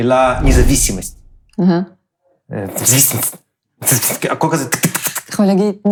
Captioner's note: spasms in Russian impression